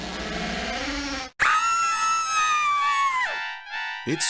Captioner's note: scream